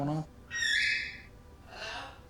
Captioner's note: parrot whistle